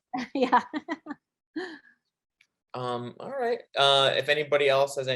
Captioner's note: chuckling